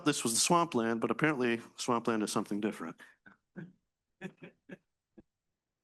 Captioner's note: chuckles